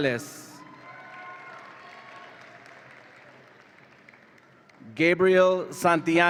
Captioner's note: audience applauds and cheers